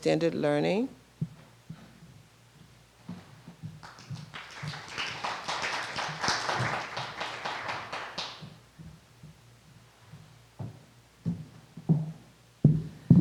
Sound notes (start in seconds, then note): 6.4 applause